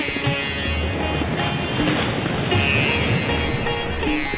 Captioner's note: waves crashing